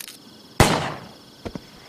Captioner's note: gun shot; body drop